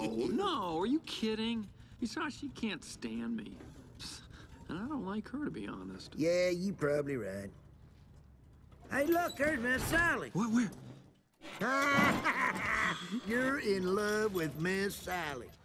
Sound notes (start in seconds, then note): 11.5 laughing